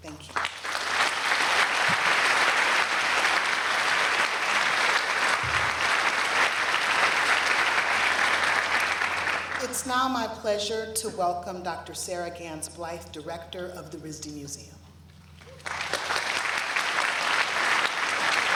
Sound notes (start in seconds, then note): 2.1 applause